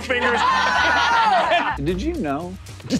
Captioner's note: players laughing